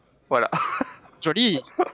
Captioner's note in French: rires